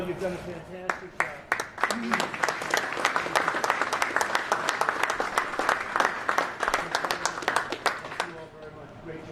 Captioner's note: applause